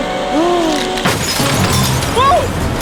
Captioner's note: wind Howling; glass Smashes